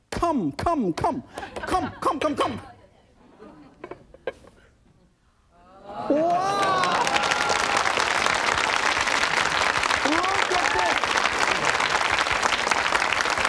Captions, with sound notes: Come, come. (tapping) Wow. (audience clapping) Look at this.